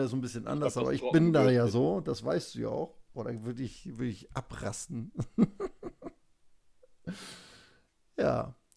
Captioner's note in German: gelächter